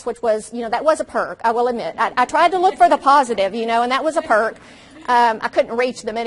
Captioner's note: audience laughs